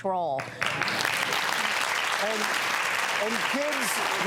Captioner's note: audience applause